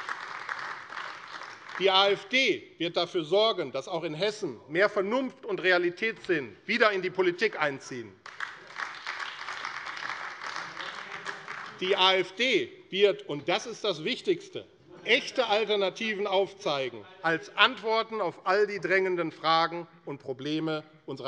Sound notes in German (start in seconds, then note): 0.0 Beifall AfD; 8.2 Beifall AfD - Lachen CDU